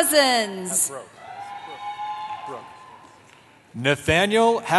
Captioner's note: cheering